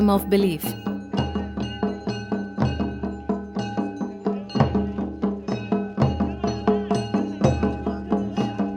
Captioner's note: bell clanking; soft drumming